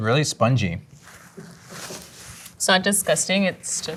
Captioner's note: napkin crunching